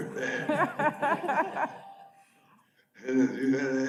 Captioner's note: audience laughs